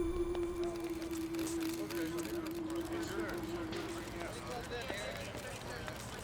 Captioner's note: cameras clicking